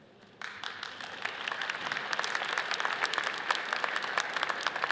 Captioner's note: audience applauds